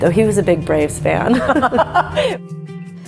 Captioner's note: laughs